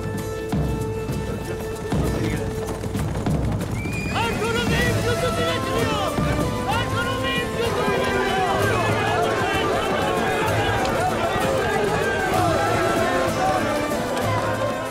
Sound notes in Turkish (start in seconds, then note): 3.0 At kişneme sesi; 3.0 At nalı sesleri